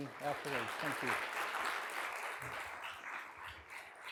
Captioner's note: applause